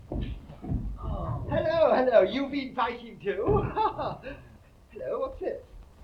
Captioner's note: laughs